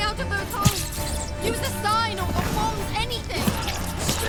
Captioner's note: mice squeaking